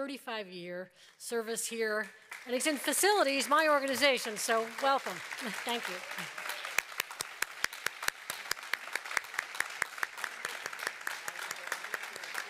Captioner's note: applause